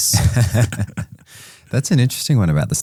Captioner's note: both laughing